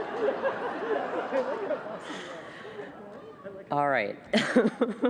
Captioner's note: laughter